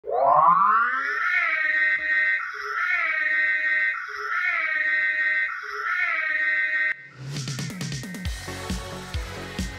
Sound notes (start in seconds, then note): 0.0 siren